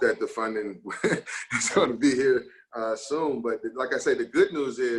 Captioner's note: giggles